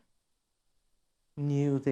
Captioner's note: none